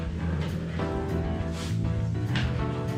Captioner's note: none